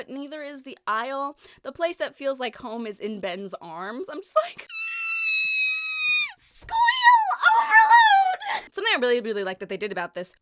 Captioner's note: squeeaal